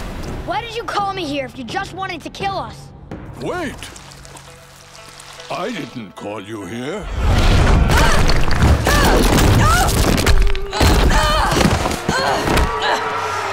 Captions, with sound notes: Why did you call me here if you just wanted to kill us? Wait. I didn't call you here. [grunting] [grunting]